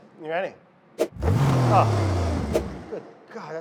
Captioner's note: blender revs; whoosh